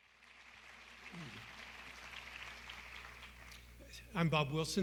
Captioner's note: applause